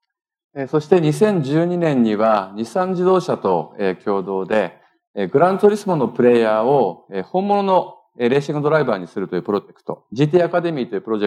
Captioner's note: speaking japanese